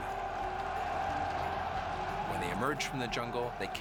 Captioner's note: cheers and shouts